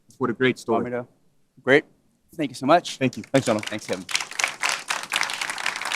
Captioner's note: applause